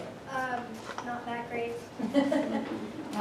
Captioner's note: laughter